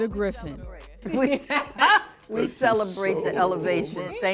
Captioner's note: laughs